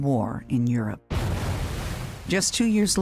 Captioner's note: explosion booming